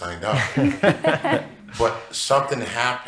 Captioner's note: people laughing